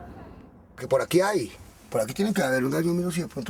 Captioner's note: speaking foreign language